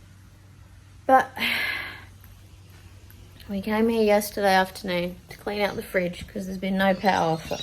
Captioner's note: sighs